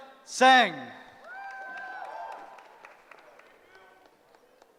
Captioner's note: cheering